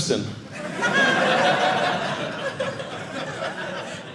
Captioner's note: audience laughing